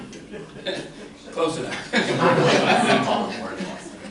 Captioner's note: laughter